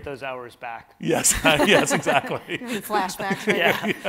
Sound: laughs

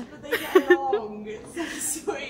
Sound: laughter

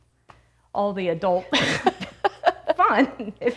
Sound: laughs

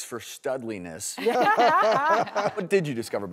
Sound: laughs

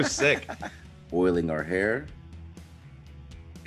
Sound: laugh

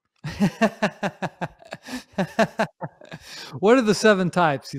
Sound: laughs

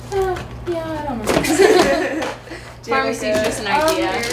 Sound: laughter

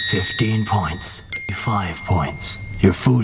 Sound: ding!

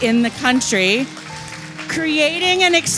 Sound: audience applauds

